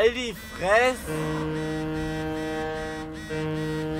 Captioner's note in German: Klingelton